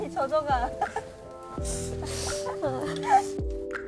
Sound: pat pat

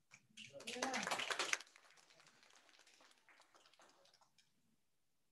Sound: audience applauding

